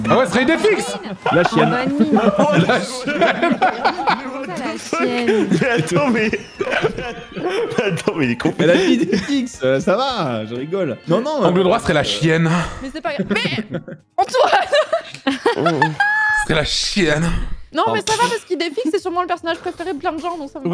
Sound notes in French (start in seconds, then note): 0.1 rires; 1.0 rires un peu outrés